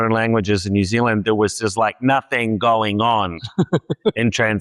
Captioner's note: laughs